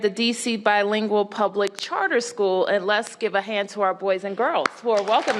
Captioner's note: cheers and applause